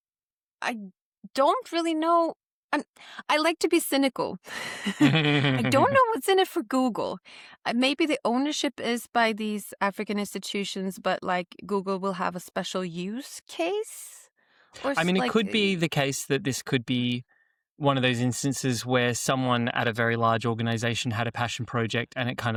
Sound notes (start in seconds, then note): 4.6 laughter